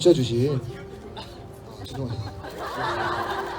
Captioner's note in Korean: 웃음